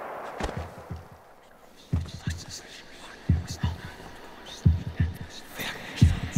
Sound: ghostly voice whispering; heartbeat thudding

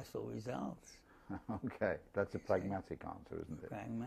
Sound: laugh

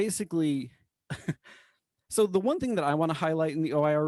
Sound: laughter

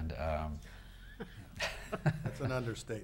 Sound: people chuckling

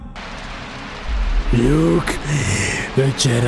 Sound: breath

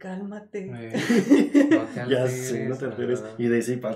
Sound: laughing & agreeing

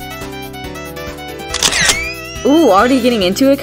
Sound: camera shutter

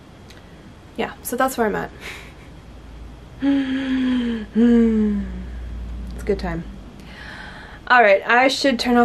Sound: exaggerated inhale and exhale

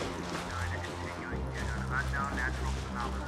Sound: radio broadcasting

